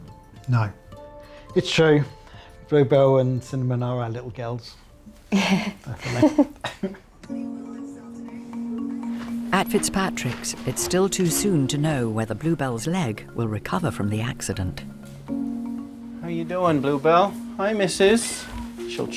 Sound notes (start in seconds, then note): 5.3 laughs; 6.9 gentle music